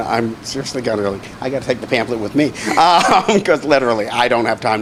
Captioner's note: laughs